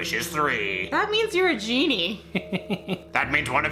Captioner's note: laughs